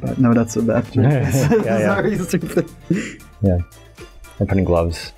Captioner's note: laughter